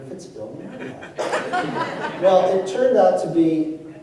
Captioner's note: laughter